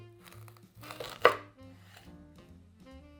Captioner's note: knife cutting a jalapeno pepper